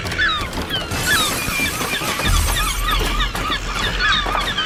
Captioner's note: glass breaking